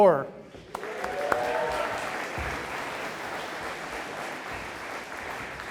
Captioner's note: audience applauding